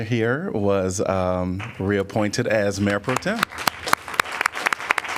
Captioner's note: applause